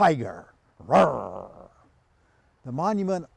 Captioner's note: roars